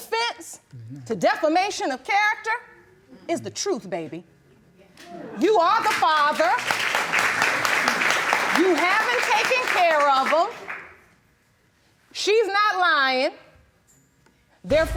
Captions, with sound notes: the defense to defamation of character is the truth, baby. You are the father. (AUDIENCE APPLAUDS) You haven't taken care of them. She's not lying.